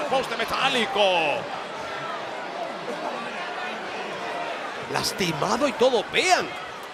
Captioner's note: applause